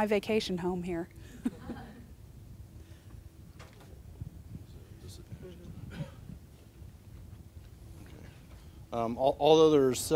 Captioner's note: audience laughter